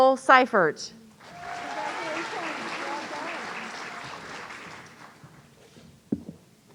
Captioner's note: audience cheering